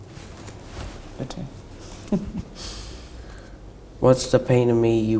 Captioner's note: chuckling